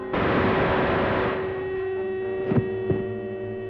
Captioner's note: gun fires